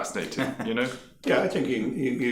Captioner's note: laughing